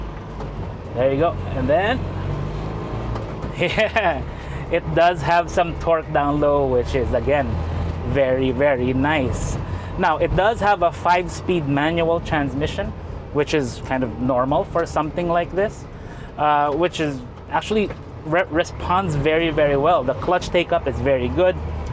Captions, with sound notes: There you go. And then... [engine revs] Yeah! It does have some torque down low which is, again, very very nice. Now, it does have a 5-speed manual transmission which is kind of normal for something like this. Actually, responds very very well; the clutch take up is very good.